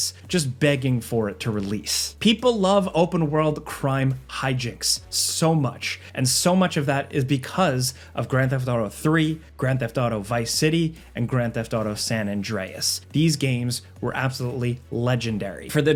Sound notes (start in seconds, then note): none